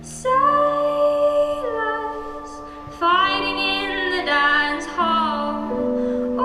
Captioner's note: none